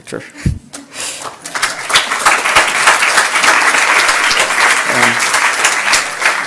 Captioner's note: applause